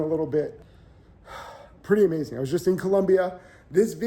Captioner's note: sighs